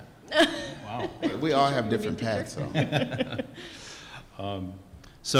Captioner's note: laughs